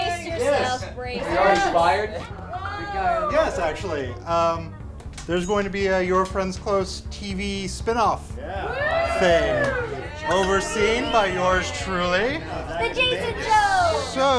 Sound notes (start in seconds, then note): 2.0 chattering; 8.4 cheering